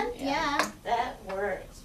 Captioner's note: voiceover